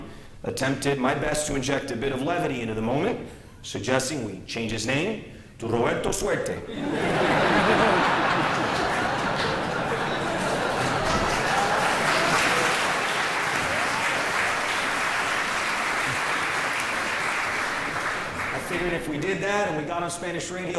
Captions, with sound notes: AHEAD AND THE VOTING DEMOGRAPHICS IN MIAMI-DADE COUNTY, ATTEMPTED MY BEST TO INJECT A BIT OF LEVITY INTO THE MOMENT SUGGESTING WE CHANGE HIS NAME TO ROBERTO SUERTE. [LAUGHTER] [APPLAUSE]